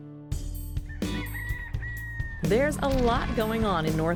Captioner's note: rooster crowing